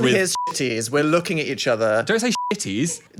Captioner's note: beep; beep